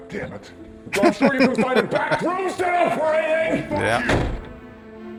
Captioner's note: laughing